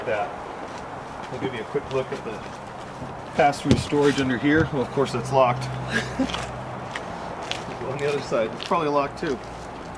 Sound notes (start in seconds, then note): 5.8 laughs